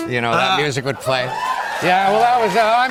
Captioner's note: cheers and applause